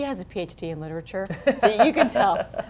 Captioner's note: laughing